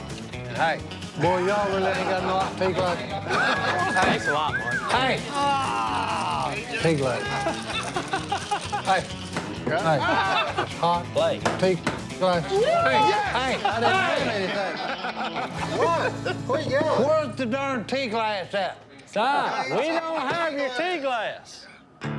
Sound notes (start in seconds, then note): 3.2 laughter; 5.6 groaning; 7.2 laughter; 13.4 laughter